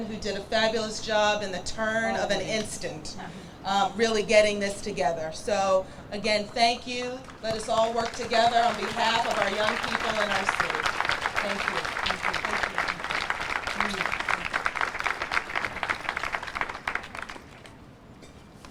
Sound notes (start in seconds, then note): 12.5 audience applauds